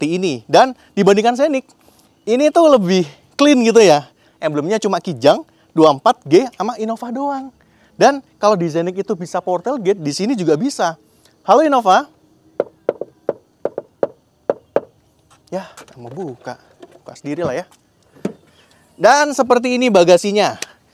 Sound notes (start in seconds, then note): 13.6 knocking